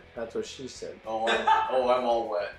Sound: laughs

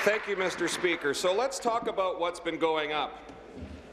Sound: applause

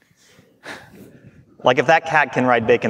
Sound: chuckling

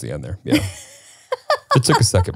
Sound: laughs

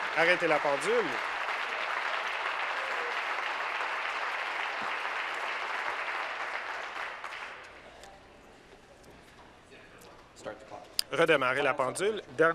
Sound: applause

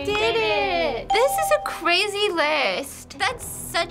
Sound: bell rings

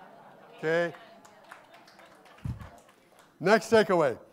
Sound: audience applauding

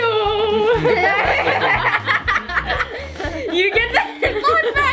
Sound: laughing

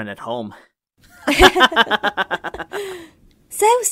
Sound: both laugh

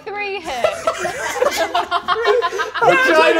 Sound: all laughing

